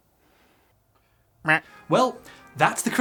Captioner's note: quacks